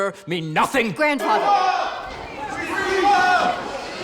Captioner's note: indistinct shouting